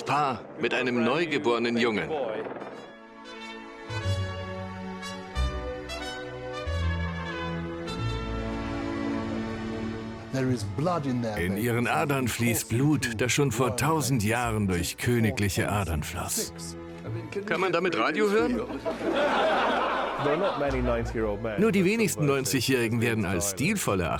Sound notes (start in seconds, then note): 3.0 regal instrumental music; 18.8 laughing; 19.8 voiceover